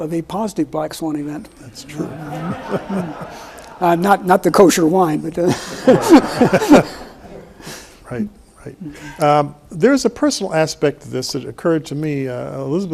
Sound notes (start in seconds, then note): 1.8 laughs; 5.4 laughs